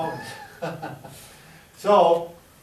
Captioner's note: laughing